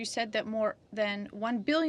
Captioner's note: speaking French